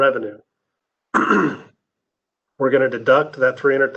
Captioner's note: clears throat